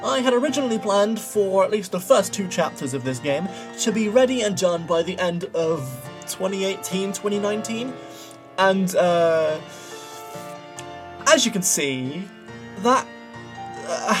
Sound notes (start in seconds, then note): 9.6 inhales